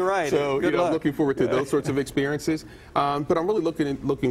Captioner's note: laughter